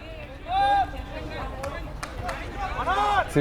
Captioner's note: players shouting